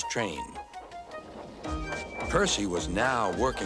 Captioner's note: toot toot